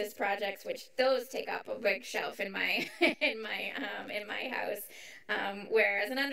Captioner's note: chuckles